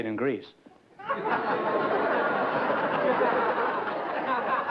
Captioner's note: laughter